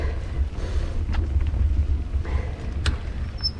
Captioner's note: deep breathing